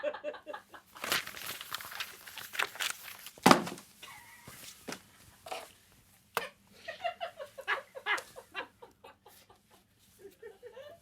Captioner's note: laughter